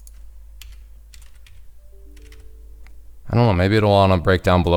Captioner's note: keyboard clicking